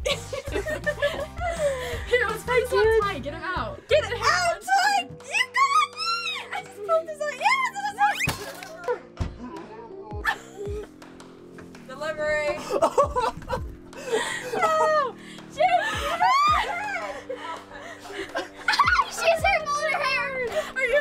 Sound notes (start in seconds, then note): 0.0 laugh; 8.2 blow lands; 12.6 laughs